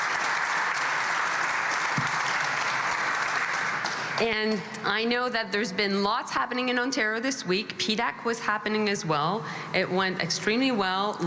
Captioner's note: applause